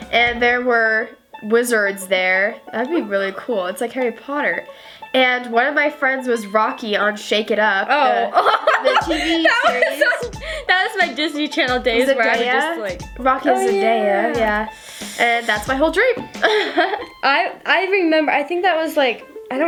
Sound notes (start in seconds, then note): 8.0 laughs; 16.4 laughs